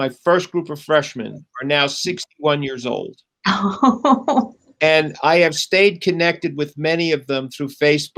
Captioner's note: laughter